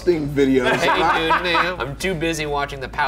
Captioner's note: Shane laughing